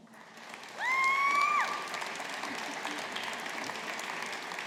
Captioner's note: audience applauding